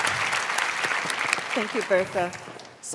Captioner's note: applause